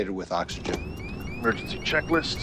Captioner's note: alarm sustains